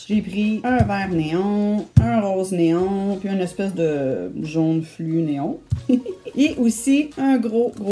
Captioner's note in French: rire